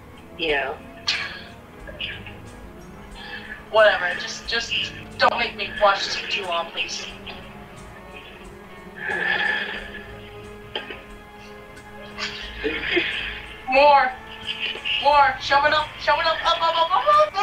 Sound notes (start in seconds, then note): 9.0 Sounds of Chris struggling